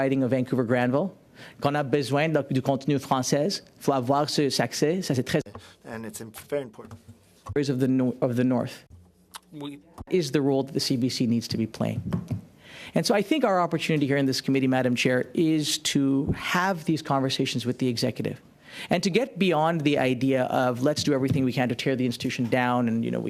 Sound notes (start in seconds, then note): 8.1 speaking French